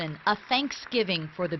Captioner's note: applause